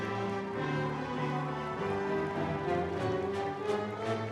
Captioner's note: audience applauding